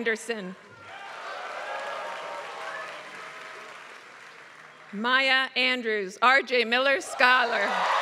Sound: applause

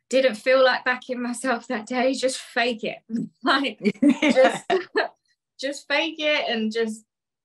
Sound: laughs

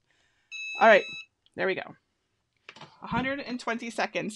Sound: EasyPress beeping

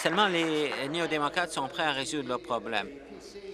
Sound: applause

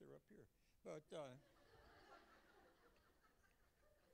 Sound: laughter

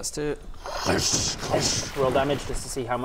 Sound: kkrkshcckhsxcckh

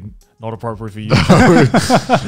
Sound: laughing softly

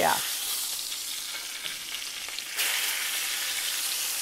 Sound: sizzling

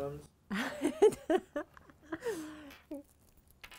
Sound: laughter

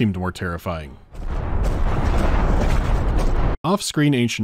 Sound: thump-thump-thump-thump

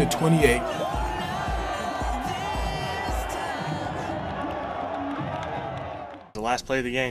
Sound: crowd cheering and music

